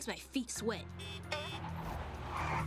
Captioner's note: honking